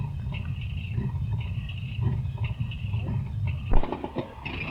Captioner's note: engine chugging